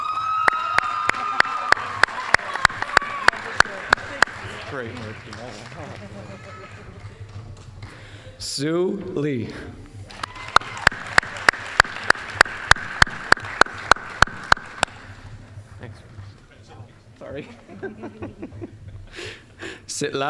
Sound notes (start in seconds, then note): 0.0 applause, cheering; 10.0 applause; 17.4 laughing